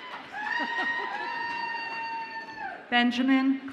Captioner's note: audience member laughs